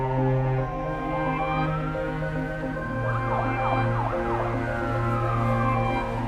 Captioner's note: somber violin music; sirens blaring